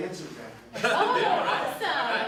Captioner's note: laughs